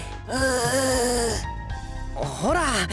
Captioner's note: groggy groan